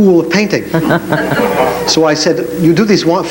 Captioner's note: chuckles